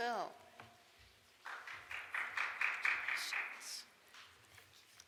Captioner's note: audience applauds